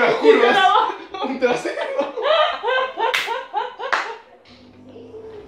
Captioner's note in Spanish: Risas